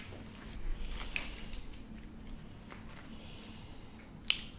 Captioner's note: joints cracking